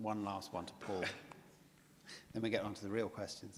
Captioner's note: chuckles